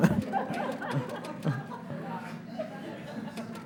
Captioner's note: audience laughs